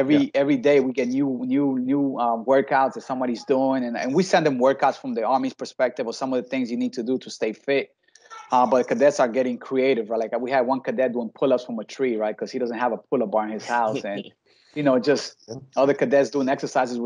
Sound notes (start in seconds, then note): 8.3 background chattering; 12.1 laughing